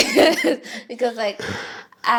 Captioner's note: laughing